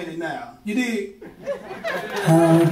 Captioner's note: crowd laughing